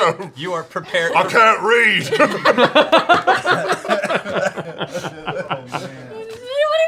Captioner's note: laughter